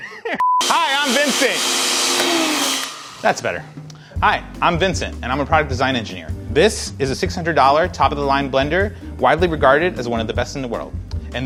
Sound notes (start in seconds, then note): 0.6 blender stopping